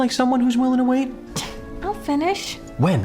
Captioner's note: scoffs